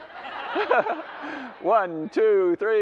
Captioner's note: laughter